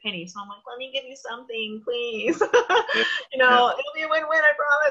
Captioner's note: laughs